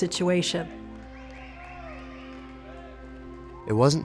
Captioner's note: cheering